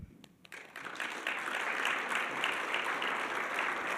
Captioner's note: attendees clapping